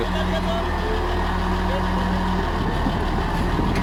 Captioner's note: engine sound